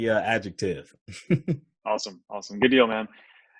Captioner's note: laughs